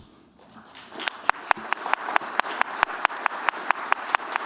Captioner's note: applause